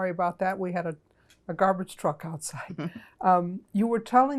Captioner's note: laughing